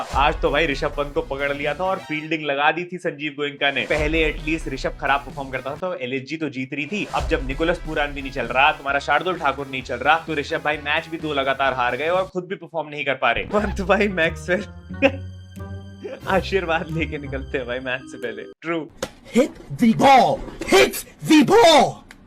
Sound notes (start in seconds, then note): 14.9 laughing